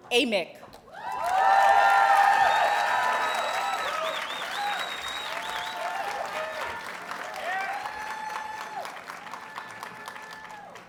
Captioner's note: audience cheers and applauds